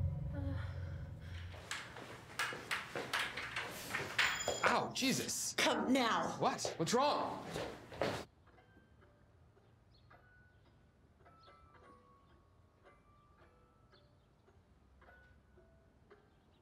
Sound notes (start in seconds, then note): 0.0 moans; 1.5 wood clacking; 8.2 music box playing